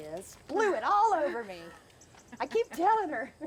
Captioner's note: laughing